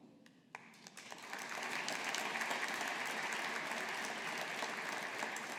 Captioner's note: audience applauding